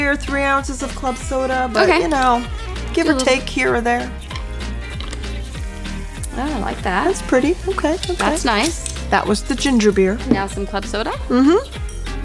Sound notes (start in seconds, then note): 1.7 mumbles; 5.3 cocktail sizzling